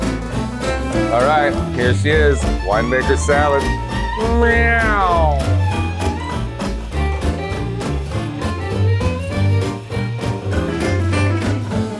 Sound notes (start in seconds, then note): 5.1 exclaims; 6.3 elegant music